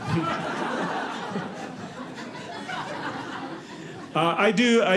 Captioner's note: audience laughing